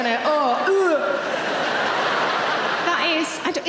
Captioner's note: audience laughing